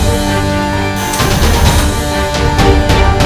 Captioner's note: Door bell